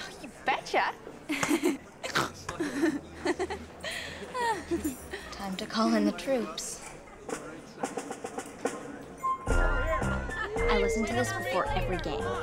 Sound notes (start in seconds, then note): 1.3 giggles; 2.1 snorts; 9.2 inspirational music